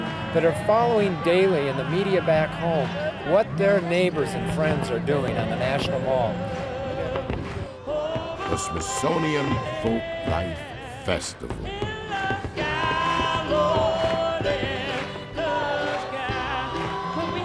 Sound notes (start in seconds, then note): 12.3 fireworks bursting